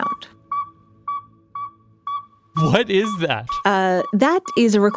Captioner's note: hoot hoot hoot